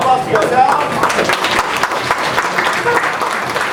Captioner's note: audience applauding